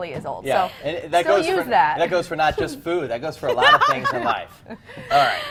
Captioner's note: laugh